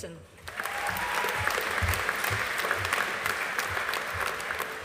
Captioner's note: audience applauding